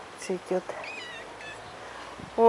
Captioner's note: meow!